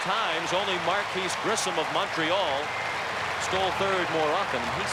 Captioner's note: applause